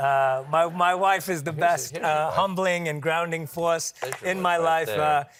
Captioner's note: applause